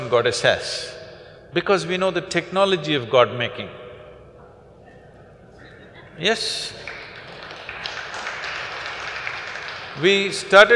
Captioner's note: laughter; applause